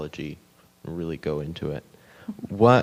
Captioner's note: chuckling